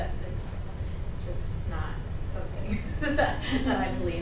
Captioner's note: chuckles